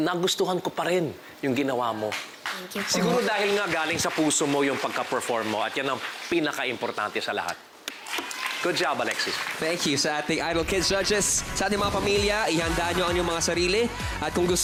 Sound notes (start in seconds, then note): 8.0 applause